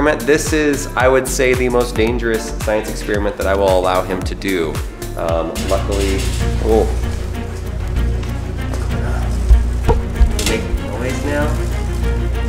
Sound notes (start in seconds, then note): 6.1 metal clattering; 7.7 dramatic music